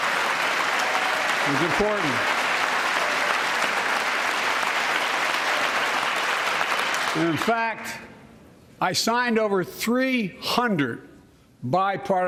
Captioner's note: applause